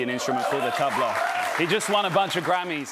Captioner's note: cheers and applause